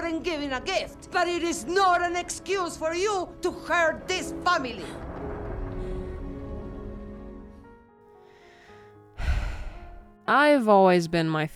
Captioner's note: heavy sigh